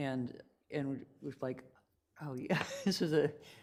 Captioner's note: laughs